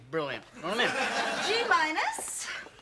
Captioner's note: audience laughs